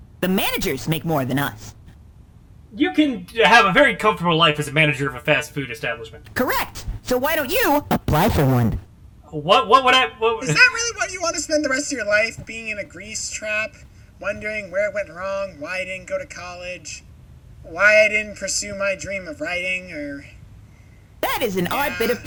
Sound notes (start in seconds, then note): 9.4 stammering